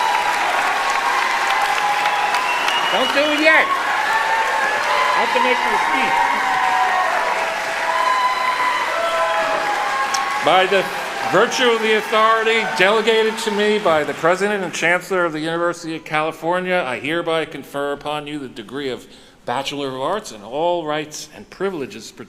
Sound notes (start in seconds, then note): 6.2 applauding